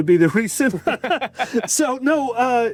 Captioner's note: both laughing